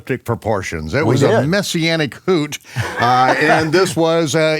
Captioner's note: laughing